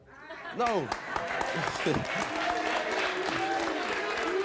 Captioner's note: laughs; audience applauds